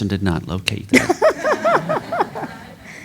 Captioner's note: laughter